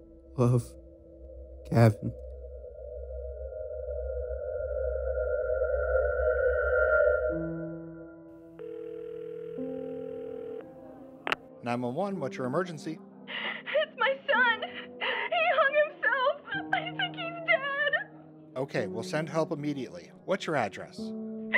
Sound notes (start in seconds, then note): 3.8 dramatic music; 8.5 phone ringing